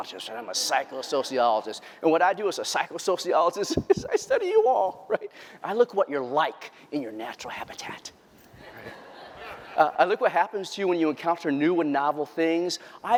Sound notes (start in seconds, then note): 8.5 laughter